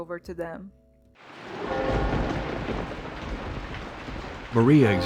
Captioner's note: rain; bells